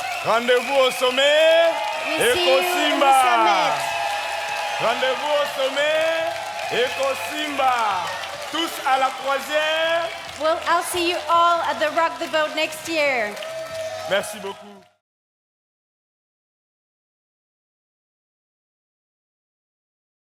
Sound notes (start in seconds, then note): 0.3 speaking in French; 5.0 speaking in French; 13.2 audience cheering